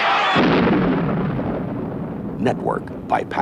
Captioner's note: lightning thunders